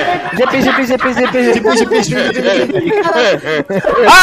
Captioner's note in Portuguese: risos